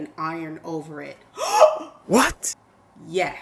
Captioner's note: gasps